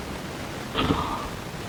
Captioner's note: gasp